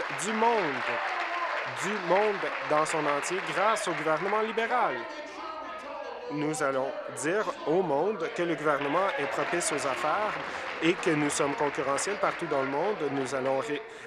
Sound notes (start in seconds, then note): 0.0 applause; 12.2 applause